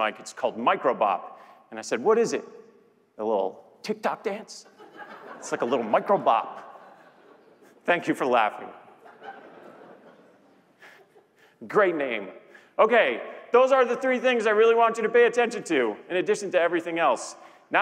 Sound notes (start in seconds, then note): 8.9 laughter